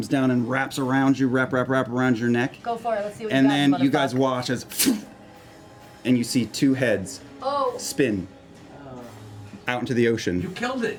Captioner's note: splitting noise